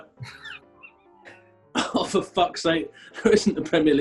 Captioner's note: laughs